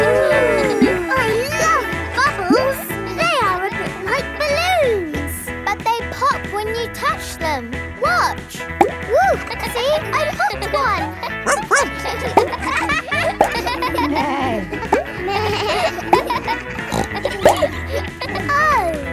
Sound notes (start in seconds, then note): 0.0 kids gasping and laughing; 9.7 kids laughing; 11.4 barks; 14.4 bleats; 14.4 neighs; 17.3 snorts